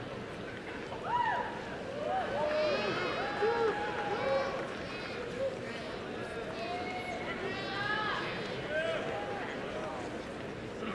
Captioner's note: crowd murmurs and cheers